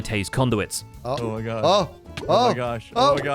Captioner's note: damage ticking